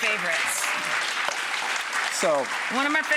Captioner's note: crowd claps